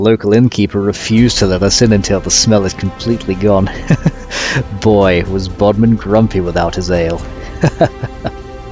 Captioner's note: laugh